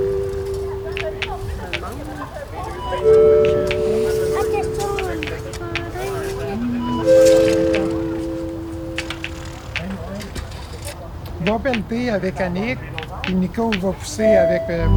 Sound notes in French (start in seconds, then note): 0.8 Les conversations se poursuivent au loin